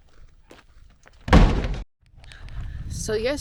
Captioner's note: gunshot